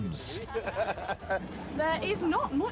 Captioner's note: guys laughing